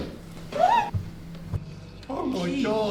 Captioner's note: woman screaming